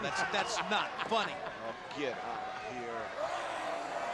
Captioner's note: laugh